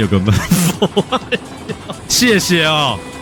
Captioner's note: laughing so hard